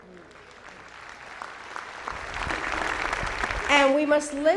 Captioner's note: audience applauding